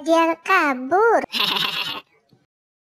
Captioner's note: sound laugh